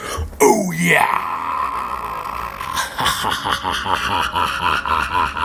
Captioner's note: laughs